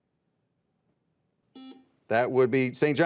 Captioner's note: buzzer beeping